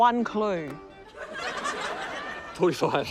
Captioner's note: laughter